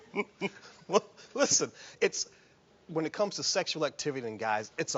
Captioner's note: laughing